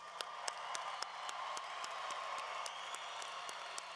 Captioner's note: applause